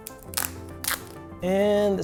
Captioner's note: tape ripping